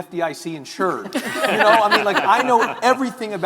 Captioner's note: all giggling